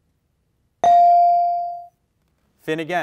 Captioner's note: bell rings